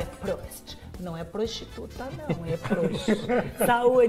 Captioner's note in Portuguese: risos